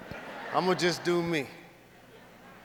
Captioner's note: audience laughs